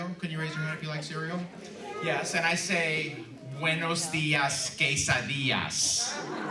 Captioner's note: laughter